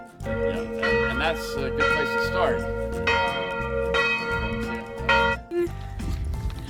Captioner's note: bell clanging